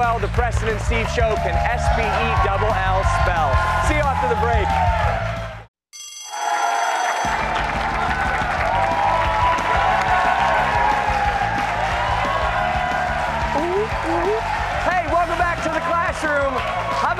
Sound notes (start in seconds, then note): 5.9 bell rings; 9.5 cheers and applause